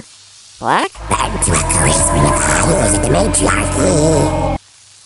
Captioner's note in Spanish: voz demoniaca